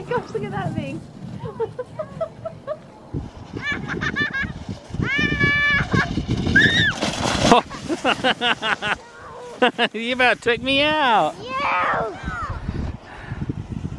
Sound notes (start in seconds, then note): 1.4 laughing; 3.6 laughing and screeching; 7.5 laughing